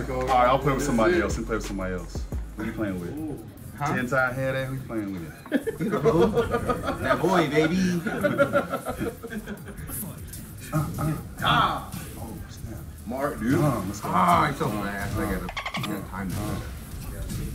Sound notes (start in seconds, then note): 5.3 laugh